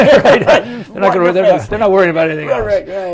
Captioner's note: laughter